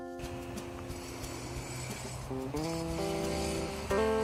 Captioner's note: construction sounds